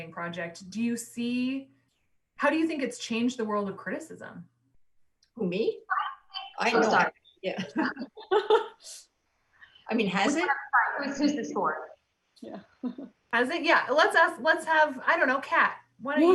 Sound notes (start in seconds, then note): 7.6 soft laughs